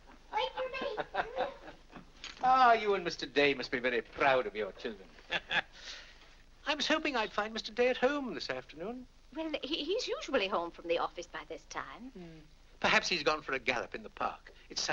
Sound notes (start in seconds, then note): 0.8 Dr. Lloyd chuckles; 4.7 laughs